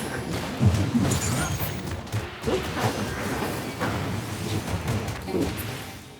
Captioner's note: gunshots